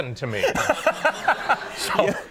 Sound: Conan laughs

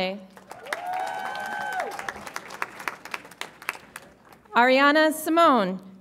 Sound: audience applauds and cheers

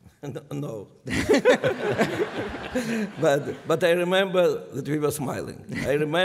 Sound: laughter

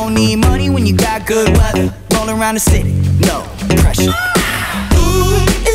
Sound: ahhh

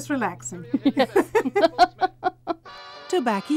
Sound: laughter

